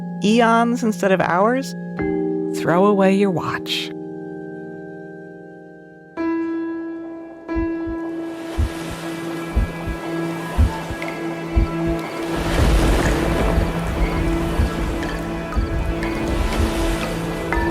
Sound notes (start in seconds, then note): 6.3 clocks ticking; 7.4 thrilling music